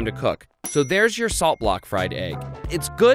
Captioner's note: dings